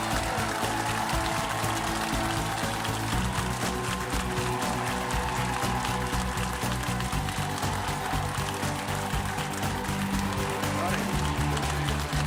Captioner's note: applause